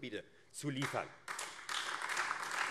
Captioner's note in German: Beifall AfD